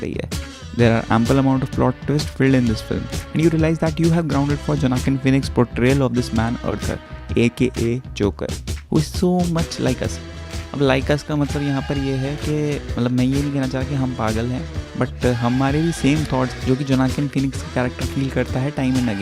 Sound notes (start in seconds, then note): 10.2 hindi